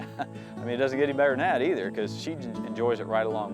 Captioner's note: laughs